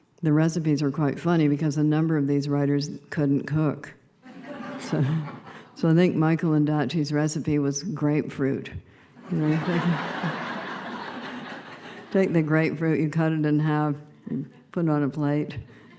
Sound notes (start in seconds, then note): 4.2 laughter; 9.2 laughter